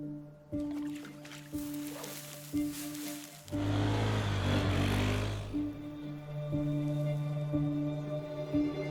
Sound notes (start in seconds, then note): 0.8 grass rustling; 3.2 vehicle engine rumbling